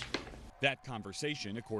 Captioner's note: papers shuffling